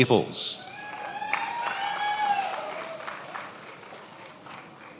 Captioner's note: attendees applauding